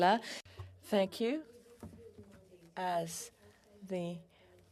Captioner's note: speaking French